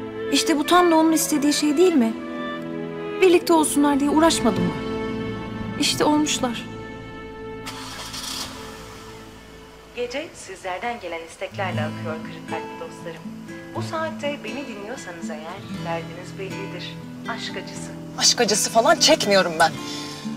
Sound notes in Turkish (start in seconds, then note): 6.7 Araba sesi; 9.8 Kadın radyo ses